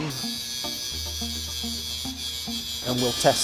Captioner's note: grinder whirling